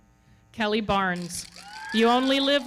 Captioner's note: audience cheering